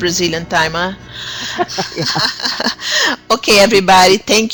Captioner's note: laughter